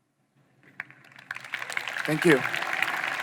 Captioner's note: audience applauding